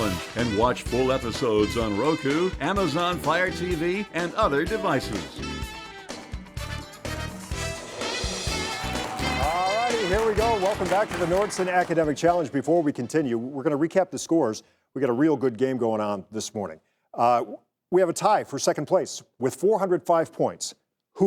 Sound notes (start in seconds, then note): 5.1 energetic music continues; 7.6 audience applauding